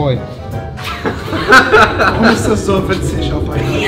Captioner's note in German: die Jungs lachen